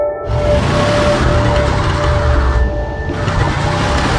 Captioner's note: engine rumbling